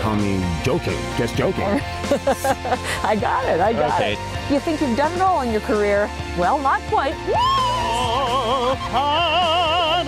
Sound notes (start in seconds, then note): 0.3 drumming; 1.7 laughs